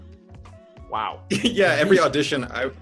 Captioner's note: chuckles